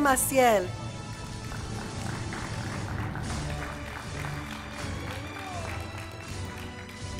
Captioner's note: applause, Music